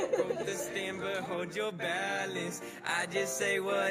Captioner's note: both laughs